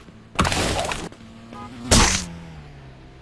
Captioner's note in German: Peitschende Geräusche; Fernes Hupen, Krachen